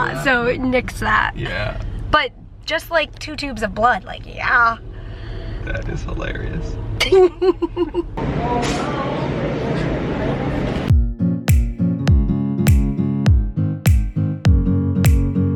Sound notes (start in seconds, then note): 7.0 laughing